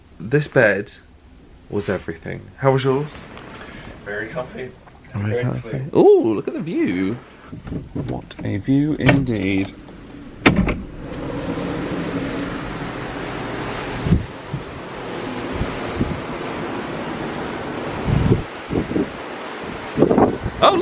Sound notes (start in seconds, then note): 10.8 doors sliding; 14.6 ocean swell lapping; 17.6 breeze whooshes